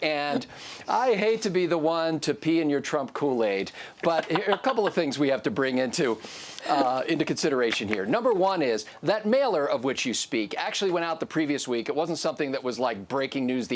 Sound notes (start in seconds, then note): 4.0 laughs